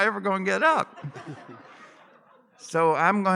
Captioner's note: laughter